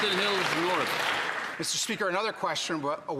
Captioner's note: some Applause